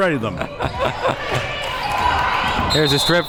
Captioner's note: laughs